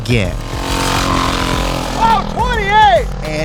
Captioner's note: motorcycle engine revving